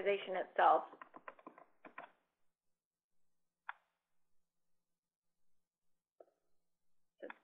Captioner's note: typing Sounds